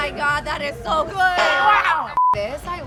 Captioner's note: boing